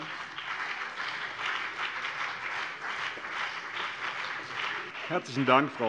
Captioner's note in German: Beifall BÜNDNIS 90/DIE GRÜNEN und vereinzelt CDU